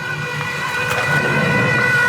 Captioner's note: engine revving